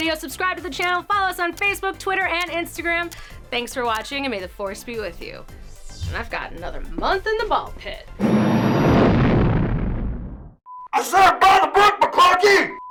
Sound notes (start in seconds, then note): 8.1 rockets firing